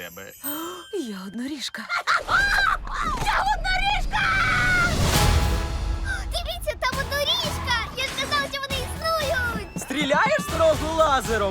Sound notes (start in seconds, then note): 0.1 gasps; 4.3 dramatic tone sounds